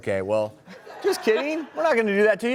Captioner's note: crowd laughing